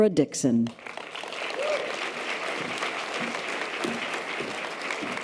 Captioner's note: audience applause